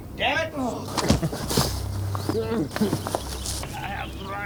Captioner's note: groaning